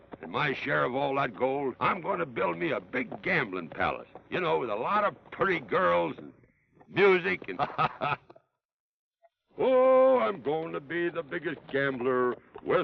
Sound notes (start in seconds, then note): 7.3 laughs